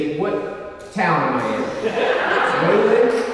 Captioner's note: audience laughing